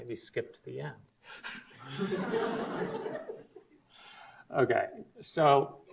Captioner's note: audience laughs